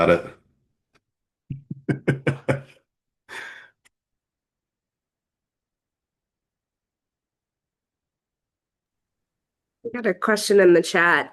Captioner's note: laughs